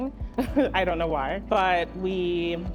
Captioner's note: chuckles